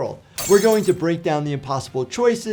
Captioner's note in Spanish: vidrio roto